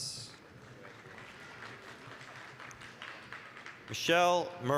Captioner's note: applause